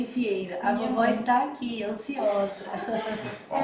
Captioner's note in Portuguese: risos